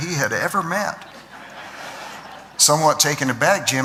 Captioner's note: laughter